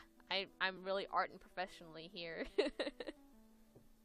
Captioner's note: laughs